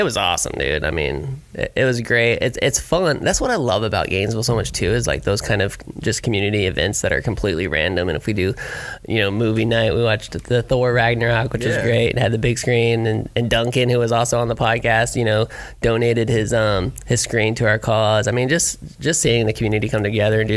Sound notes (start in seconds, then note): none